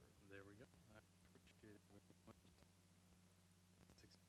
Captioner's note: stuttering audio